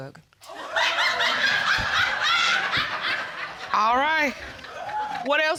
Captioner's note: audience laughing